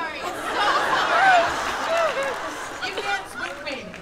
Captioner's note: laughter